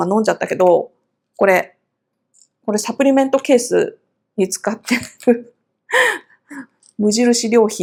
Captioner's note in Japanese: 息をのむ音